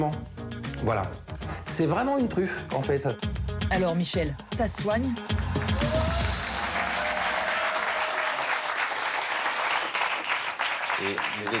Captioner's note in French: applaudissements